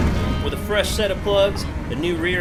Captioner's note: rock music; car engine revving